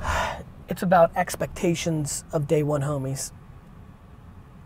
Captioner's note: sigh